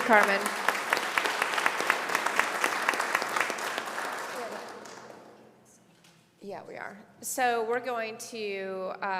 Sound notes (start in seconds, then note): 1.7 applause